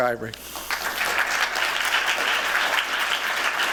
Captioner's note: applause